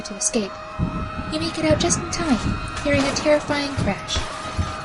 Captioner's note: sirens continue; sounds of Metal and Concrete crashing and breaking